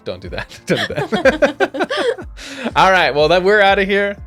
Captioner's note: both laughing